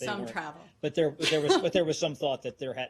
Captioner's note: laughter